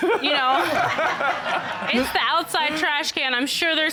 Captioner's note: all laughing